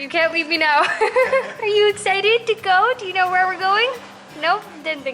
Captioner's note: laughter